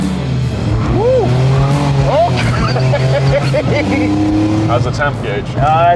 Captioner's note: laughing